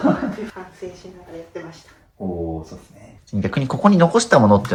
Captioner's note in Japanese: 笑い